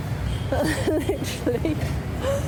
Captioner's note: laughing